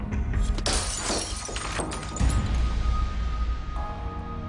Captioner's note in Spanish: Ruido al romper espejo